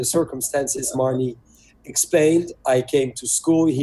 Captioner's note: speaks French